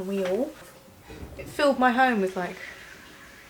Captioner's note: toilet flushes